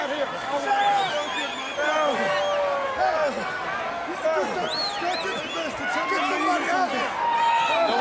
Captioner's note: crowd chatter